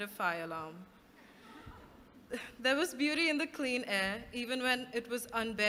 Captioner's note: laughter